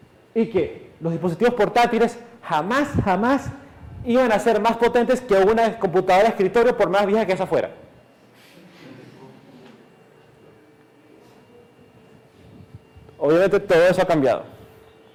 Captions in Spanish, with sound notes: Y que los dispositivos portátiles jamás, jamás iban a ser más potentes que una computadora de escritorio por más vieja que esa fuera [Clase ríe] Obviamente todo eso ha cambiado